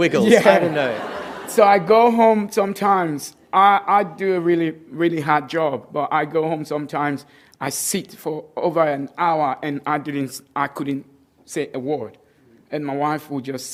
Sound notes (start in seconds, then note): 2.5 laughter